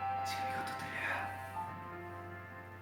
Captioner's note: whispering